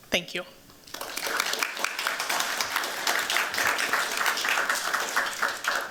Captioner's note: applause